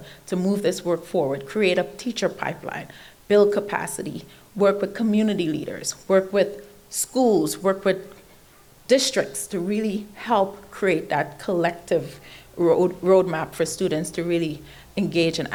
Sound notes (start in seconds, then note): none